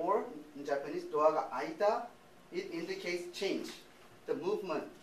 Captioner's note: speaking japanese